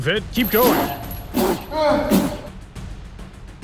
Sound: blowing sound

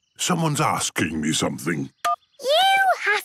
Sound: phone beeps

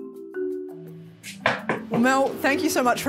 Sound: knock on door

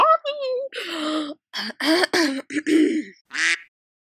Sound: gasp; ahem; quack

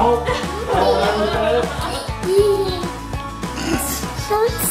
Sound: both laughing

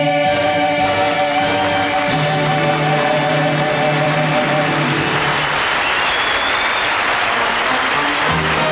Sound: audience applauding; upbeat music

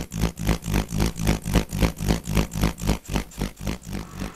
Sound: grader motor

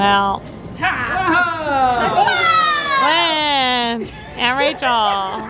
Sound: all shouting

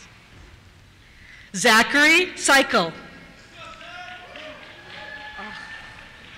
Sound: cheers

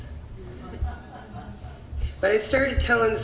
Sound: audience laughs

